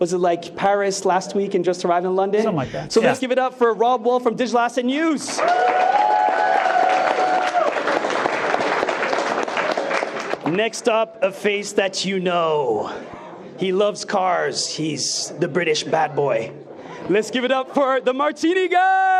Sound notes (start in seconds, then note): 5.3 attendees cheering and clapping